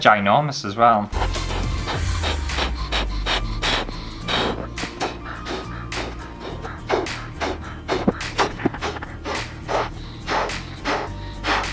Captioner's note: balloon Inflating